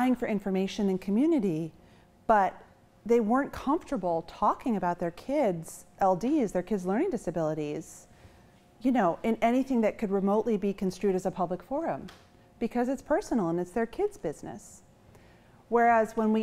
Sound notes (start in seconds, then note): none